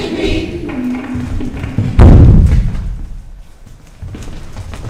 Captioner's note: footsteps rumbling